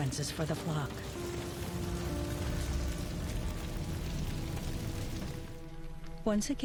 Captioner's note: fire crackling